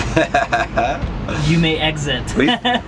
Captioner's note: laughs